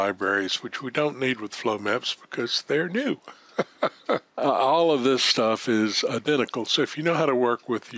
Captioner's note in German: lacht